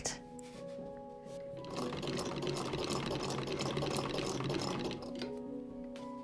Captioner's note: sewing machine whirring